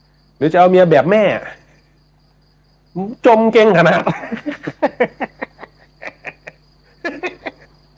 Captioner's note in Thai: เสียงหัวเราะ